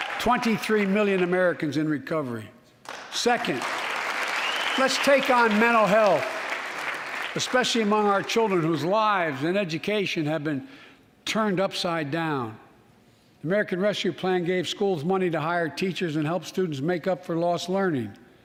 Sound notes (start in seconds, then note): 8.3 applause